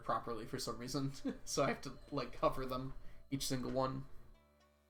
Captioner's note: chuckles